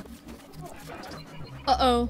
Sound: electronic static

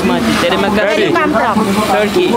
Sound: speaking Balinese

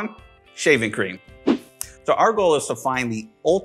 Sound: air whooshing

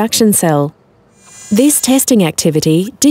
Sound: robotic arm moving

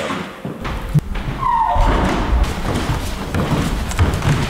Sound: loud footsteps

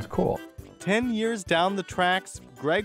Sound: voiceover

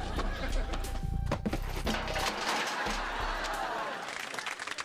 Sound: crash!

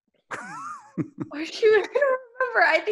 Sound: laughing

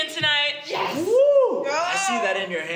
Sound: cheers

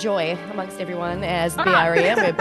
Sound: laugh

